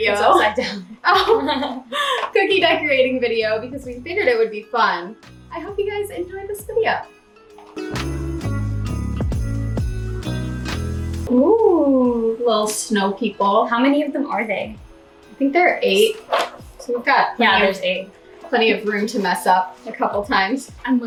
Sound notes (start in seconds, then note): 0.4 laughing; 15.9 counts under his breath